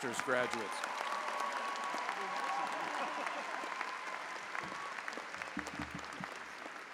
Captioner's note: audience applauding; audience cheering